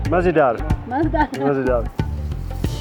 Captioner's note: upbeat music; speaking in foreign language